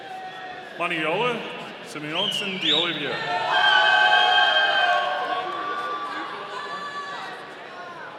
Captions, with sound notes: Manoela Simonsen de Oliveira. (audience cheering)